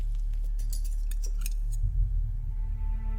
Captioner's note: utensils clink